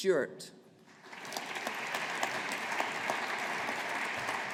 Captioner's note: audience applauding